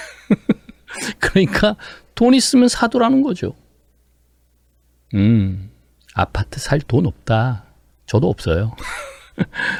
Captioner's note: laughter